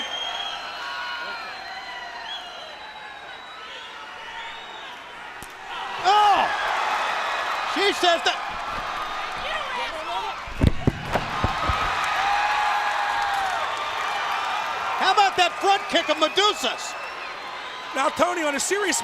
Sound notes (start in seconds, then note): 1.1 crowd cheering; 15.3 crowd cheering